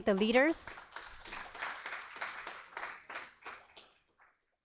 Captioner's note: applause